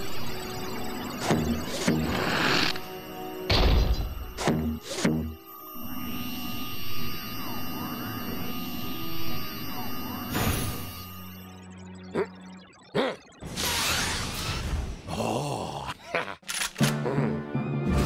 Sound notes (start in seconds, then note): 1.6 suction noise; 5.5 electric whirring; 11.5 grumbles; 15.8 evil giggling; 15.9 chuckles